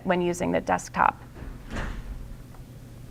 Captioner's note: door closes